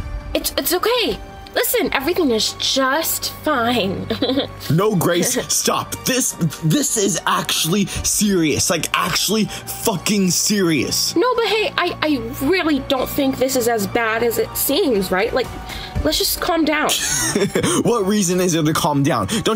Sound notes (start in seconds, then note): 16.9 laughs